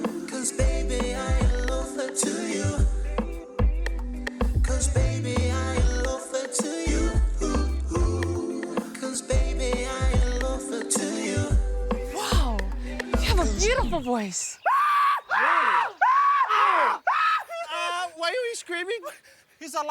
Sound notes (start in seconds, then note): 14.6 screams; 14.6 all scream; 17.7 screams